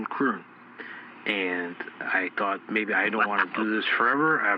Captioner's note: Derf laughs